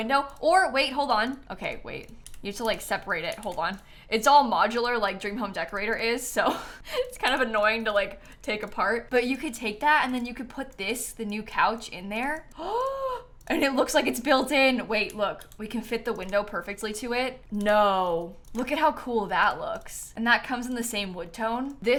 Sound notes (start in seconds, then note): 12.5 gasps